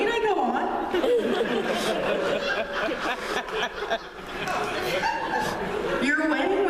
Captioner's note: laughter